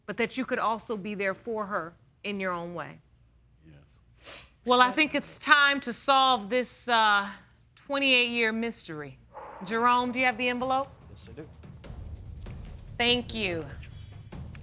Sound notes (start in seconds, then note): 9.8 sighs